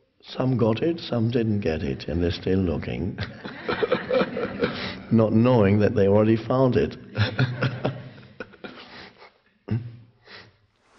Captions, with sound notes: some got it, some didn't get it, and they're still looking. (laughs) Not knowing that they already found it. (laughs)